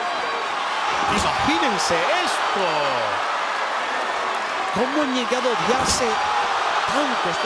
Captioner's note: Aleister thuds; commentator speaking Spanish; crowd cheering